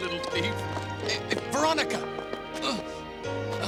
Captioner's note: gasps; grunts, sighs